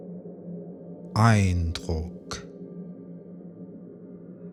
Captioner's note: german